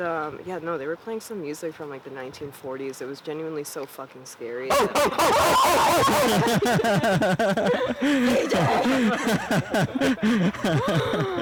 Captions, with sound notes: No, they were playing some music from the 1940s. It was genuinely so fucking scary. -[screaming] Oh, oh, oh. [laughing] CJ!